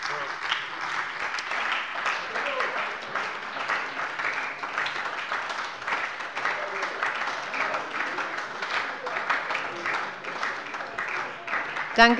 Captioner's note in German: Beifall bei der SPD